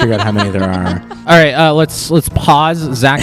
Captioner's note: laugh